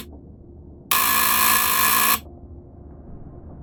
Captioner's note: doorbell sound, buzzer